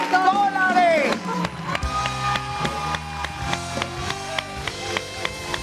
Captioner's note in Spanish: Ovación